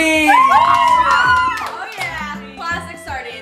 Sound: cheering

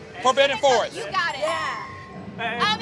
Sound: ding

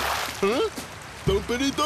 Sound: gurgling

